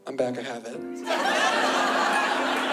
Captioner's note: laughter